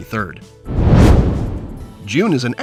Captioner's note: whoosh